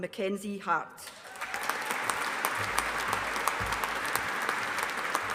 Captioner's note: audience applauding